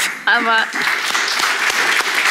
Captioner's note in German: Applaus